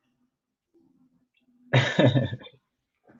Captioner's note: laughs